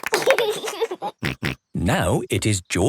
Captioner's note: laughs